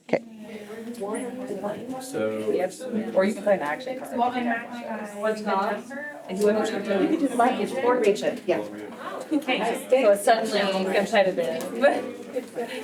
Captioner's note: Audience chattering and playing Uno